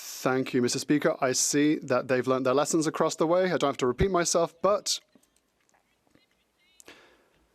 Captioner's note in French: voix de l'interprète